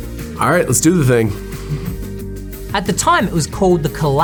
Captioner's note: chuckles